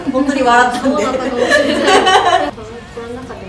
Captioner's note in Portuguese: risos